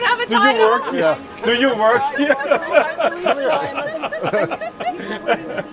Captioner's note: laughs